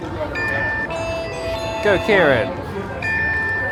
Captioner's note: beeping